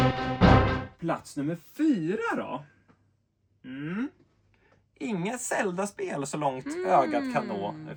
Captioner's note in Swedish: harklar sig